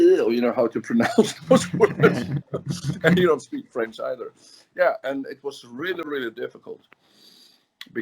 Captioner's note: laughs